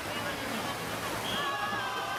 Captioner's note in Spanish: Silbato